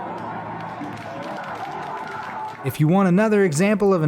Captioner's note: crowd claps